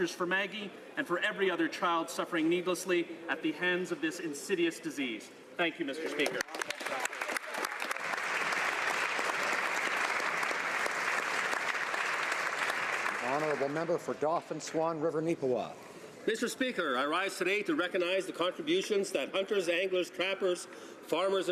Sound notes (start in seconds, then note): 11.8 applause